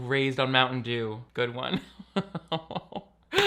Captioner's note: laughs